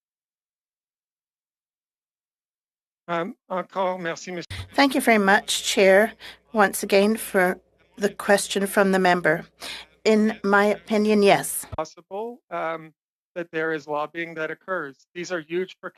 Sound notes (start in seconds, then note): 8.4 speaking French